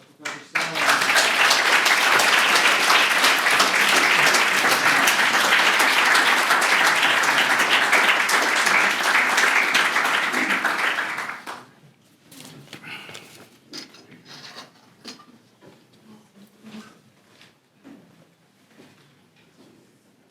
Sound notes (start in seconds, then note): 1.6 applause; 3.6 applause